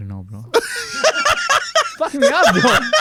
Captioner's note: laughs